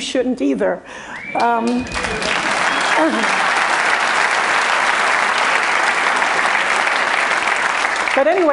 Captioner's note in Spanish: Aplausos